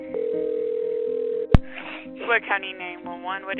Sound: phone rings

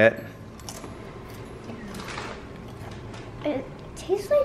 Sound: crunching noise

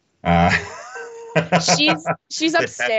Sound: laughing

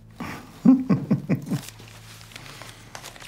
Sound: chuckles

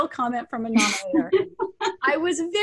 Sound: laughter

